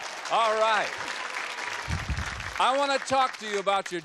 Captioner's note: applause